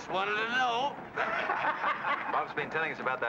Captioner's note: men laugh